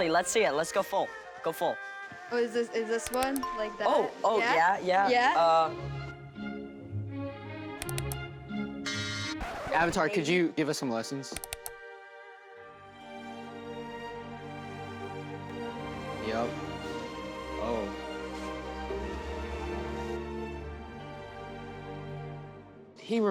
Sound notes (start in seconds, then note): 5.6 classical music plays; 8.8 buzzer beeps; 8.9 rewind screeches; 11.3 cursor clicks; 13.3 traditional music; 19.0 traditional music continues